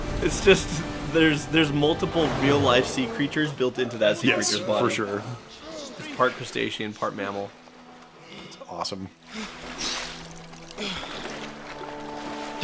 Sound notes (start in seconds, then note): 10.7 exhale